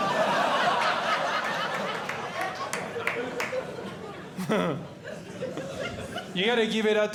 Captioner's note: audience Laughing